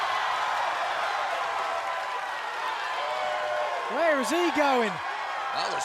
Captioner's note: cheers and applause